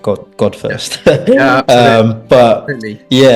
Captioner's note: laughing